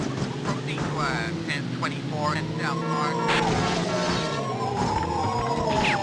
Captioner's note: police radio chatter